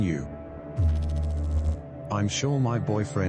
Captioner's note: electrical noise